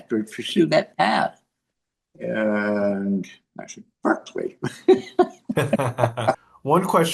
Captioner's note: laugh